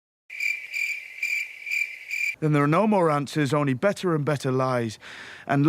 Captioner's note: crickets